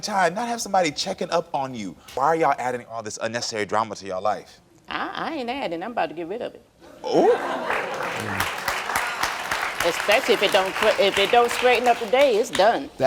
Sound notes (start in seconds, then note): 7.6 audience applauds